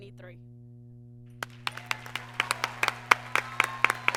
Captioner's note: applause